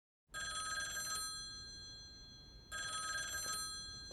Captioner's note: ringing